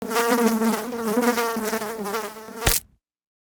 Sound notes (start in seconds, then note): 0.0 fly buzzing; 2.0 fly splatting